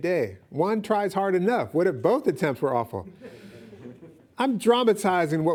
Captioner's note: audience laughing